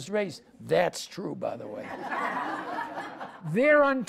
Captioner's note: audience laughs